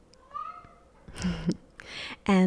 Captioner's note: cat meows; chuckles